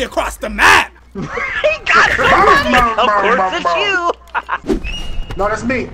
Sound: laughing

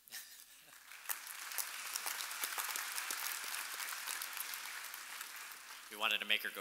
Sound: laughing; audience applauding

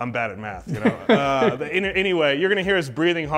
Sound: laughing

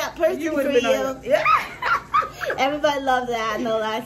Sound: laughs

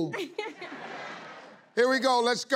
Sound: laughing

